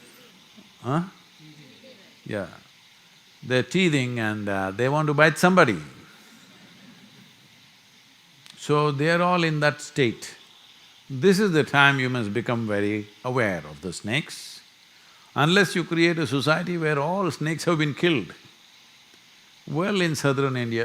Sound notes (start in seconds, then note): 6.5 few laugh